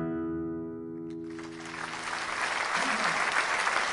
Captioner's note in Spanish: Aplausos